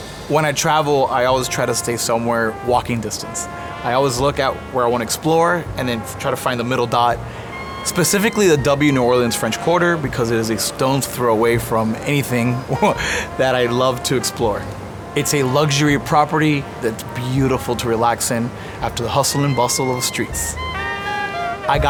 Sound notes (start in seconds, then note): 12.5 chuckles